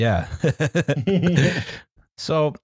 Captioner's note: laughs